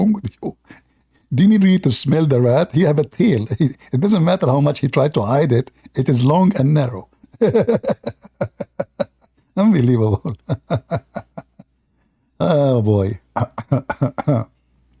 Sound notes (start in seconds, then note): 7.2 Ketawa